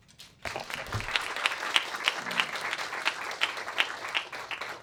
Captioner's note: applause